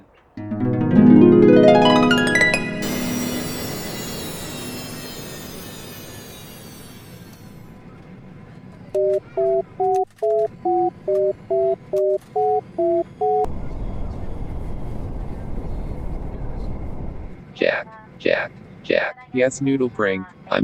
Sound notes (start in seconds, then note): 0.4 harp; 2.7 plane flying; 8.7 beeping